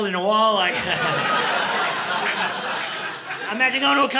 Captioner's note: audience laughing